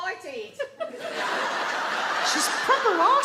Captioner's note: audience laugh